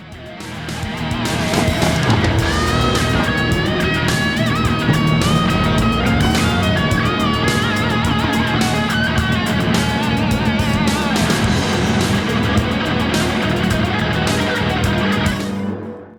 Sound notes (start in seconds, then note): 1.3 engines revving, cars noises, rain